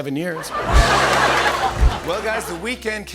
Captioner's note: laughter